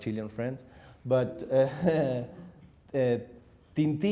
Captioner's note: chuckles